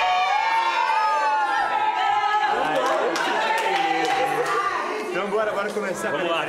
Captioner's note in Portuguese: gritaria